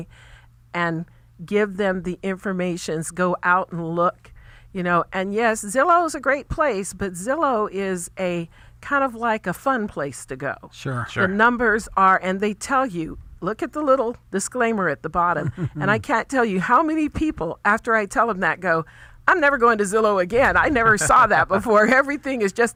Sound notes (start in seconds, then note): 15.3 host laughing; 20.6 hosts laughing